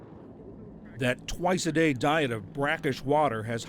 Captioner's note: voice-over